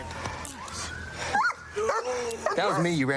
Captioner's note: dog barks